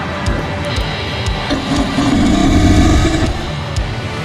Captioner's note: giant ground sloth growl